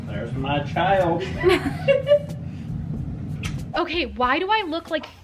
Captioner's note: laughing